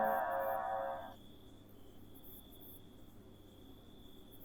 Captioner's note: crickets chirp